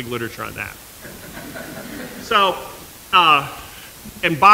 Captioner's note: laughter